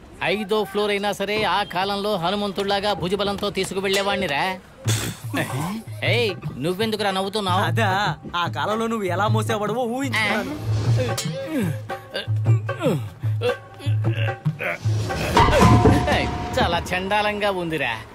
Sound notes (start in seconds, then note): 4.8 snickers; 11.5 grunts